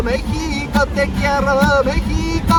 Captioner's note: none